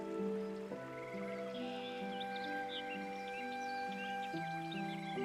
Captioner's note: birds chirping